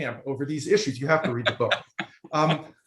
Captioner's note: laughing